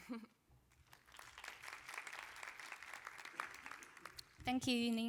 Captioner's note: applause